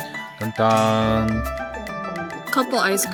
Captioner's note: celebrating noises